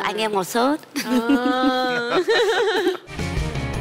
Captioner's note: laugh